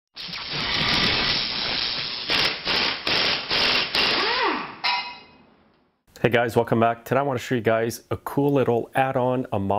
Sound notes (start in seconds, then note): 0.2 electricity buzzing; 2.2 air wrench whirring